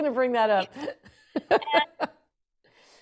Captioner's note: laughs